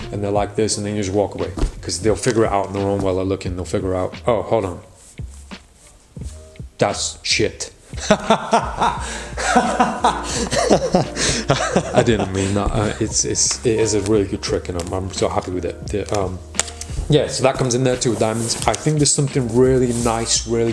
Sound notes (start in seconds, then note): 8.0 laughs